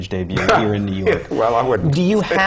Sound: laughter

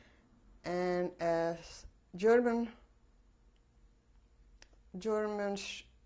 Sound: pauses for 3 seconds

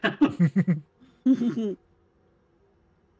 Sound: chuckles

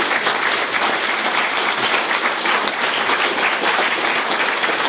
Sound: applause

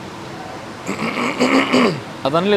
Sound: clears throat

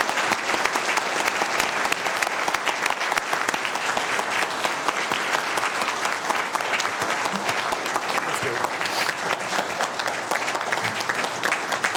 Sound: applause

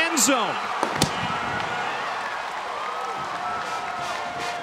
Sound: crowd cheering; marching band music

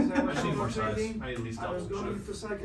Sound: laughs

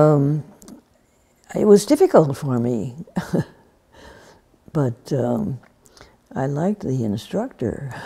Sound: laughs

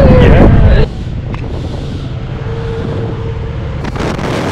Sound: motorbike noise; strong wind

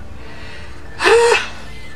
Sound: sighs

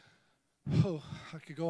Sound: exhaling

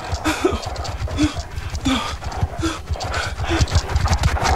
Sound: scorpion scurries

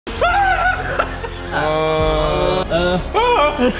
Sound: screaming

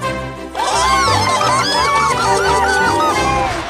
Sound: all laughing

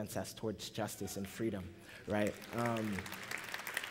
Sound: applause

